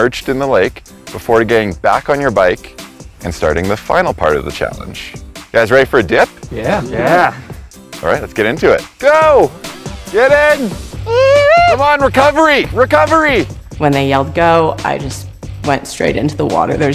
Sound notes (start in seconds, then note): 11.0 biker exclaims